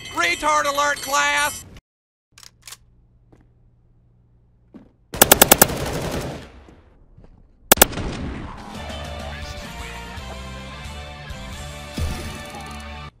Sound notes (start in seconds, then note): 5.2 hit marker sound x 4; 7.7 hit marker sound x 2